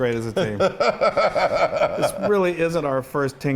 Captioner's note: laughing